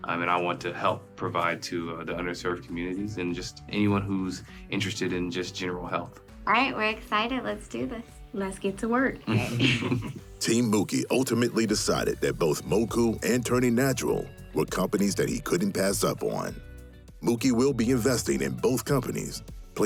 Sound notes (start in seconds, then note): 9.2 all chuckling